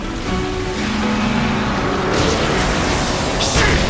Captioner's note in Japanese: クラーケンのうなり声